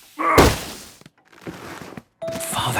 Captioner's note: grunting; narrator whispering